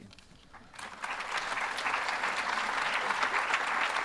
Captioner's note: applause